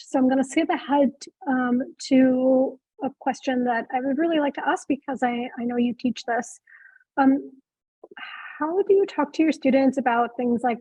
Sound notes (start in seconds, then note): none